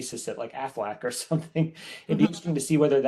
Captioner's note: chuckles